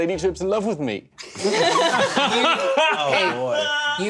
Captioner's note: laughter